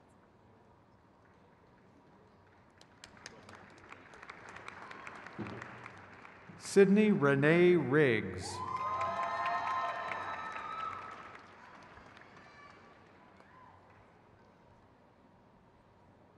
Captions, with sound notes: Hadil Faraj Swalem. (crowd cheers)